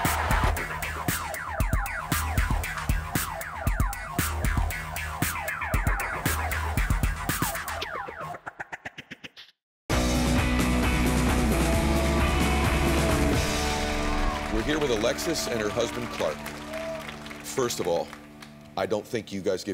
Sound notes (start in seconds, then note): 9.9 upbeat music; 12.9 audience applauding